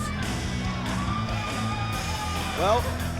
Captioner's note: crowd cheering